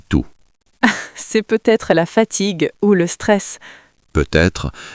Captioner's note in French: rire